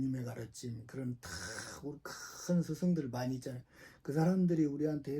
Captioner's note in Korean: 콧방귀